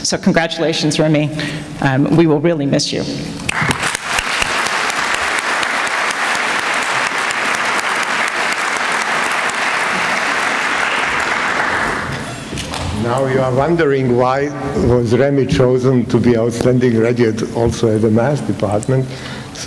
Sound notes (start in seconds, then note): 3.4 applause